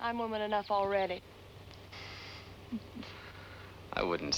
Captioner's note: chuckles